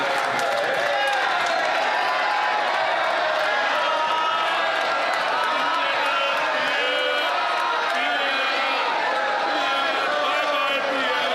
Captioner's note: some Applause